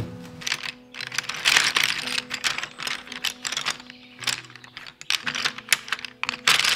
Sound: colored pencils roll against each other

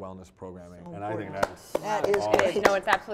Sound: clapping

